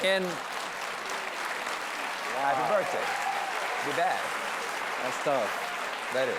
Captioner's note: applause